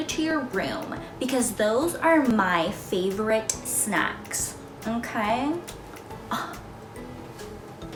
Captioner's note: scoff